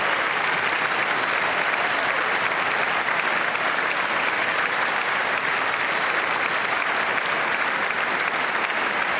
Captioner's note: applause